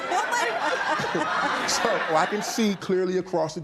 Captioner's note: laughter